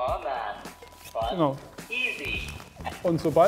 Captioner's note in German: Stimme aus Gerät spricht